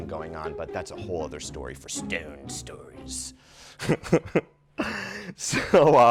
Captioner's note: laughs